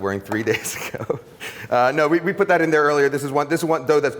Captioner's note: laughs